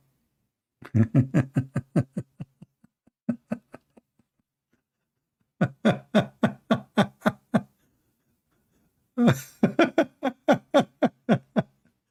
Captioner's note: Ketawa